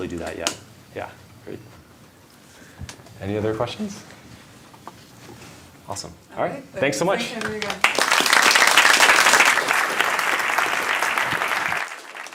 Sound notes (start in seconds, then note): 9.4 applause